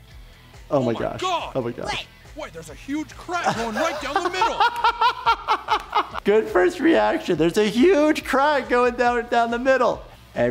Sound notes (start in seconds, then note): 3.3 laughing